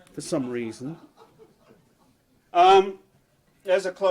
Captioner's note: audience laughs